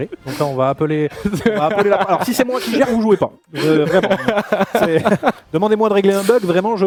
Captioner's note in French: rires